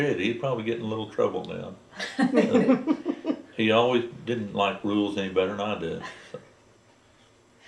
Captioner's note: laughter